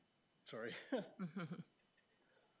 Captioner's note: laughs